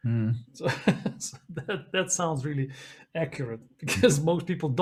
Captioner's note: laughs